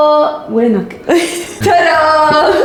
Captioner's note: laughs